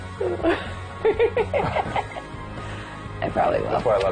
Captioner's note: laugh; laughs